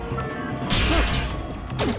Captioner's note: metal crunching